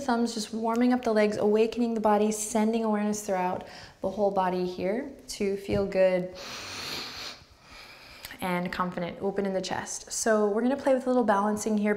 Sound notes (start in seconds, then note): 6.3 strong inward breath